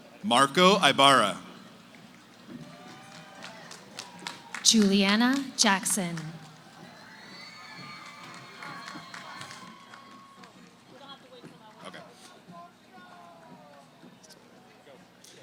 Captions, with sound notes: >> Marco Ibarra. >> Julianna Jackson. [ Cheering ] [ Background conversations ]